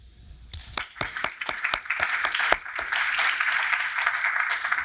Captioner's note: audience applauding